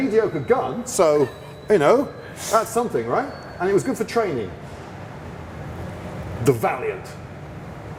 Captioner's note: breathy chuckle